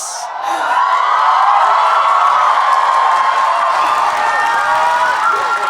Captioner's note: audience cheering and applauding